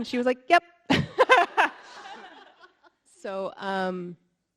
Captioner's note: all laughing